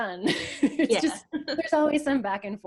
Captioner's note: laughs